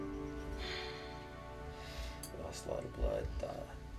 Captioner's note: sighing